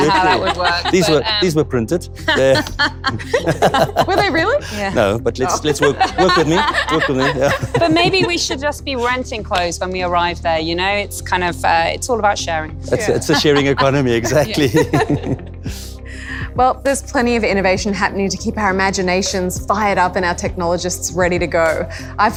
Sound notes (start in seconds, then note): 2.2 laughs; 13.0 laughs